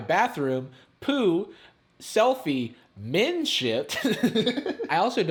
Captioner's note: laughing